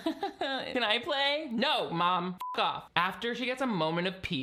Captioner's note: beep